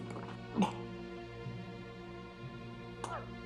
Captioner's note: coughing